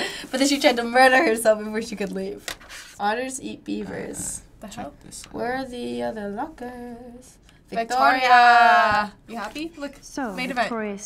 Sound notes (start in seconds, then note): 5.5 sing-song